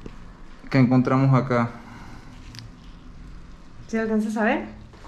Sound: speaking in Spanish

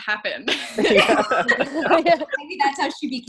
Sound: laughing

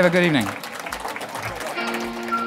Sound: audience clapping; percussive folk music

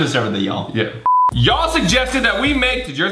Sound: beep

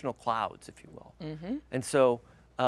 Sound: humming

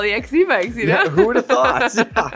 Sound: laughs

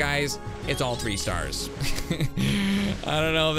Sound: laughs

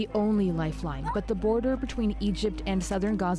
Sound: crying

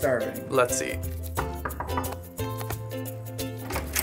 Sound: knocks on door

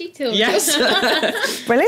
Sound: laugh

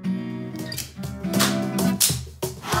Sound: clap, clap, clap

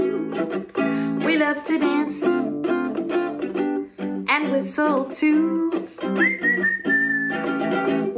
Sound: whistling

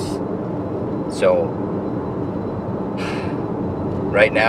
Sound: sighs

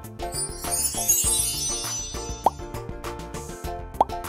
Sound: upbeat music; magic wand sound

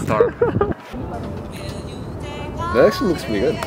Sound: laughs

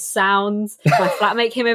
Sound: laughs

